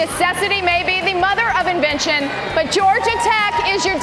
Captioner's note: cheers and applause